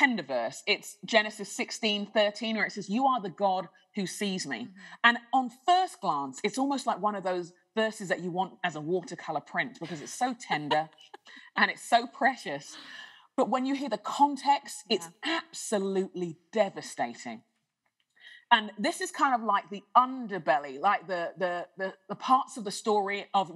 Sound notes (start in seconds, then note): 9.8 laughter